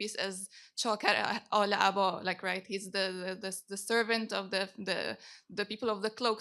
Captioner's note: non-english speech